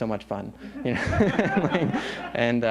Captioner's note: laughter